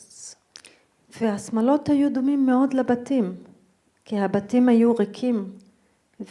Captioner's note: speaking in foreign language